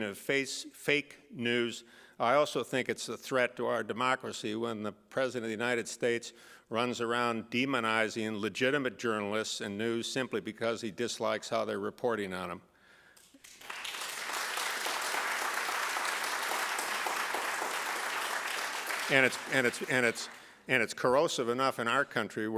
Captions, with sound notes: of fake news, I also think it's a threat to our democracy when the President of the United States runs around demonizing legitimate journalists and news simply because he dislikes how they're reporting on him. [APPLAUSE] And it's corrosive enough in our country,